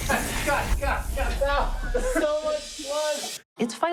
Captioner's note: laughter